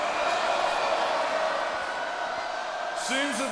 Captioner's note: crowd booing